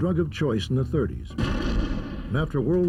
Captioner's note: explosion